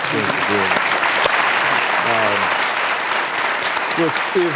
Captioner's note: audience applauding